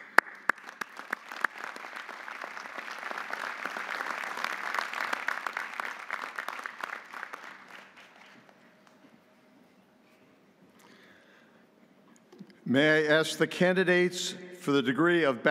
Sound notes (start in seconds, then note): 0.0 audience applauding